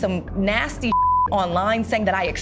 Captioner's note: beep